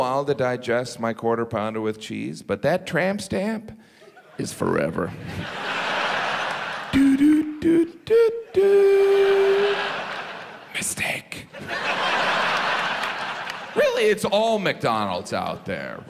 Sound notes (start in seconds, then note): 4.9 audience laughs; 6.6 hums McDonald's jingle; 11.5 audience laughs